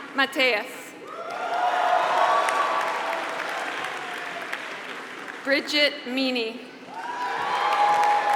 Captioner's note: applause; applause